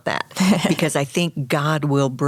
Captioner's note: chuckles